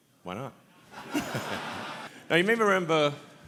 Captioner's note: audience laughs